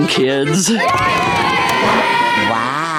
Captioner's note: cheering